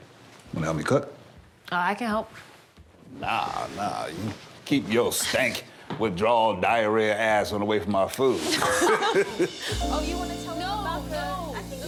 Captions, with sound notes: -Wanna help me cook? -I can help. Nah, nah, you keep your stank, withdrawal, diarrhea ass -away from my food. -(LAUGHTER) -Oh, you wanna talk... -No, no!